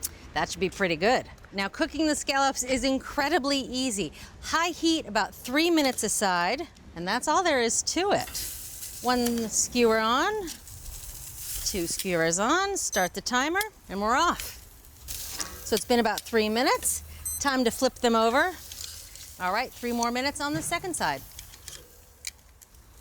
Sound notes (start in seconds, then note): 12.8 timer beeps